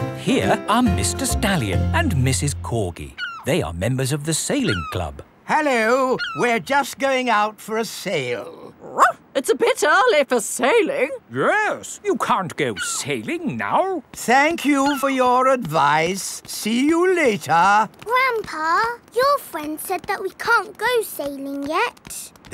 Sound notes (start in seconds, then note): 8.9 barks